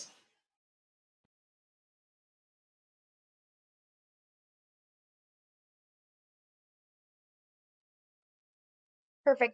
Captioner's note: silence